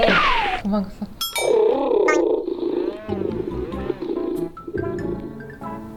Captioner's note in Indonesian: suara Harimau mainan